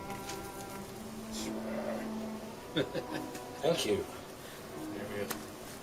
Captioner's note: chuckles